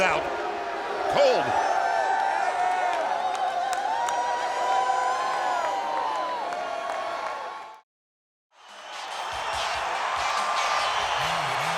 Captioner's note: crowd cheering